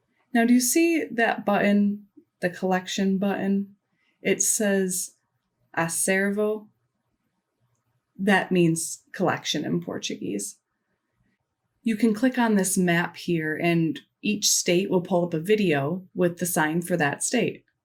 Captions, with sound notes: Now, do you see that button, the collection button? It says [Speaks Portuguese] That means collection in Portuguese. You can click on this map here and each state will pull up a video with the sign for that state.